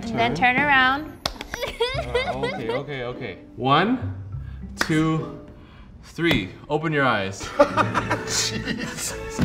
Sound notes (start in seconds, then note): 1.5 laughs; 7.4 laughs